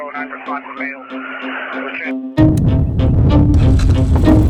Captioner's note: engines revving